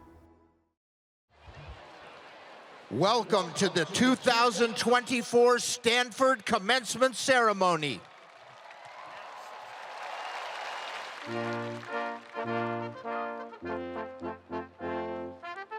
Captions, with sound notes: - Welcome to the 2024 Stanford Commencement Ceremony. (spectators applauding) (distinguished orchestral music)